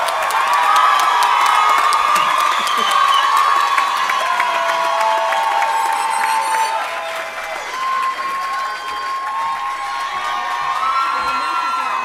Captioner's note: applause